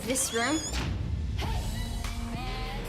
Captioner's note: creaking